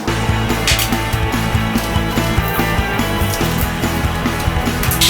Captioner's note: upbeat music; buttons pinging